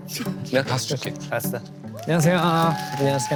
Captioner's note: giggling